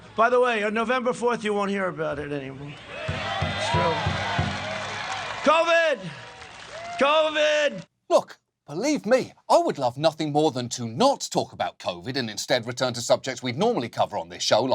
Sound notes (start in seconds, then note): 2.4 crowd cheers; 3.0 drum thumps